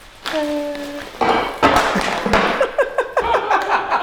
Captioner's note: bottle falling on floor; laughing